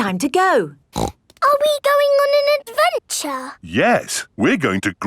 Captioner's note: snorts